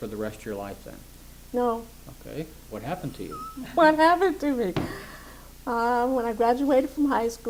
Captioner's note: laughs